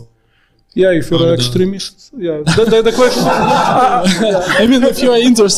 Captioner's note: all laughing